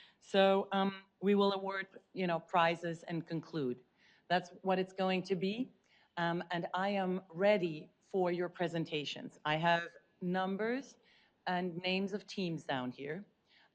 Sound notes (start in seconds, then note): none